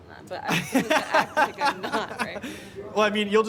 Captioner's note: laughing